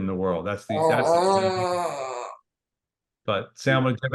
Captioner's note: murmurs